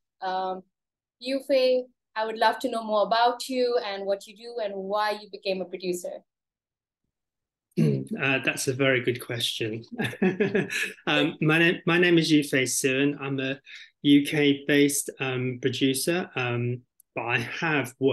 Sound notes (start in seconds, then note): 9.9 laughs